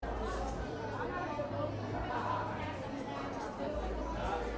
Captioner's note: crowd chattering